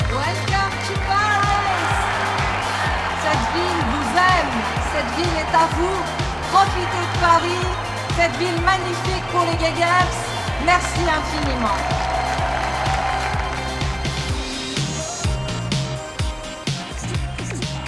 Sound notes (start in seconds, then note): 1.7 audience cheering; 3.2 speaking French; 12.0 audience applauding; 12.0 audience cheering; 14.5 upbeat pop music